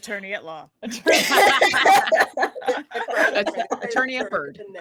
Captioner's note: laughing